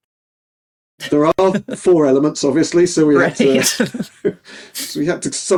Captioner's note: laughing